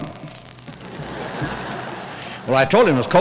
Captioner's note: laughter